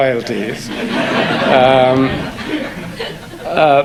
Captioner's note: audience laugh